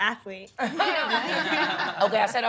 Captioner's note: laughing